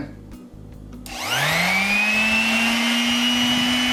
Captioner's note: sander buzzing